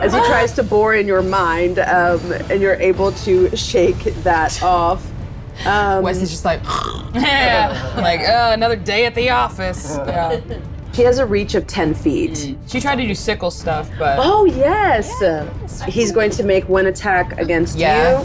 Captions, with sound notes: as he tries to bore in your mind, and you're able to shake that off. - Wesley's just like. (snores). - Yeah, like oh, another day at the office, yeah. - He has a reach of 10 feet. - She tried to do sickle stuff, but. - Oh yes. - Yes. - He's going to make one attack against you.